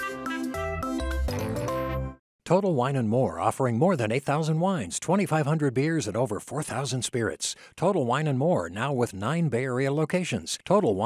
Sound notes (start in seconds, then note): none